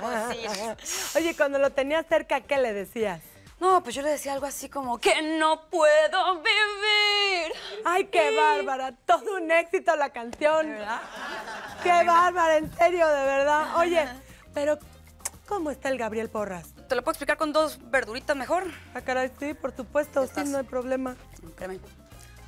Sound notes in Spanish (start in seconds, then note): 10.8 Risas